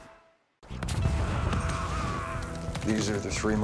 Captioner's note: explosion